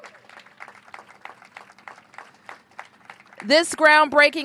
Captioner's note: applause